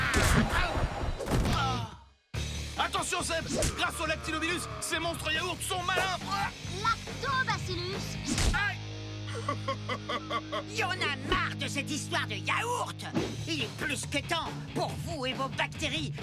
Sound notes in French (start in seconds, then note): 1.1 gémissement; 9.2 rires